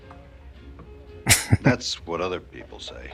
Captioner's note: chuckling